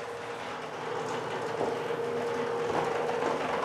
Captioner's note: quiet rattling of the machine